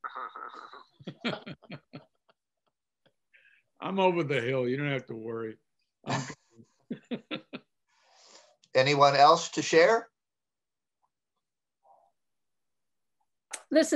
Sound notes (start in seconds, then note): 0.0 laughter; 6.9 laughs